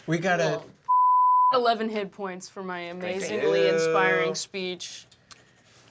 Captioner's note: beep